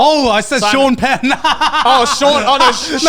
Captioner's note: laughs